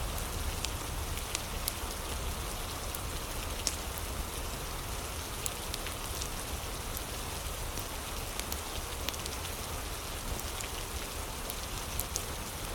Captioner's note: fire crackling